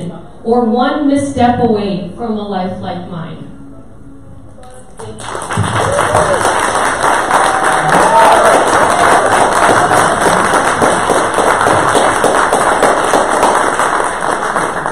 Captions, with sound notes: or one misstep away from a life like mine. Thank you. [audience cheers and applause]